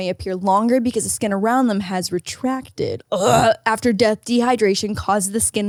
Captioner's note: barfs